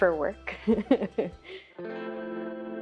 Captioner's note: laughing